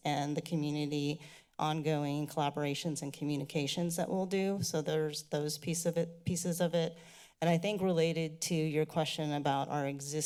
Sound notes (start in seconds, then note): 7.0 inhales deeply